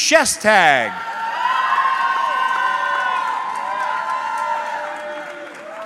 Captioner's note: audience cheering